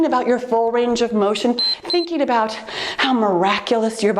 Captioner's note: timer beeps